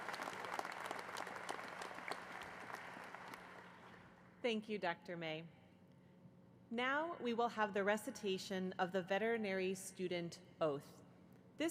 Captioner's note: applause